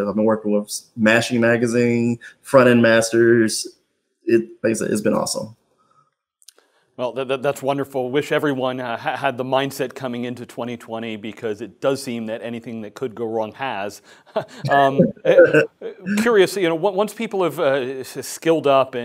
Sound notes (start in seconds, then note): 14.3 both laugh